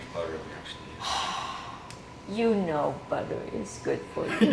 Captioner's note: sighing